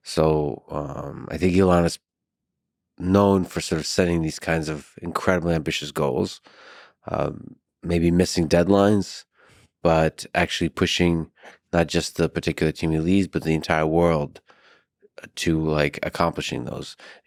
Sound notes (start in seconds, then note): none